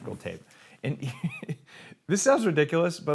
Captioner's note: laughs